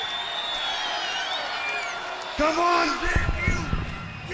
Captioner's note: crowd cheering